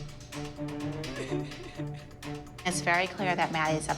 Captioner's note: cries